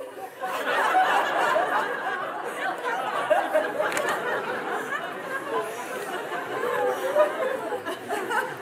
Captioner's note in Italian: Risate